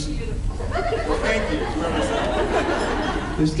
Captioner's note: laughs